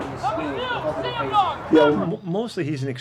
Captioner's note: coach yelling